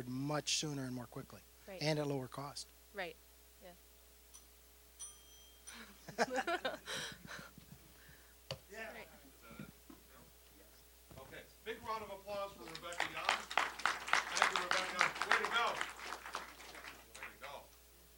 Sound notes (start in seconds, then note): 5.0 bell dinging, rather unsuccessfully; 6.0 laughing; 12.6 applause